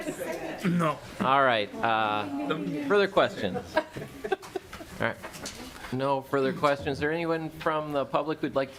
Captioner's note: laughing